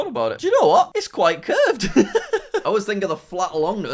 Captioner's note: laughing